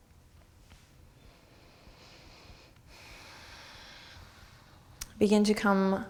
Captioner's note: deep breathing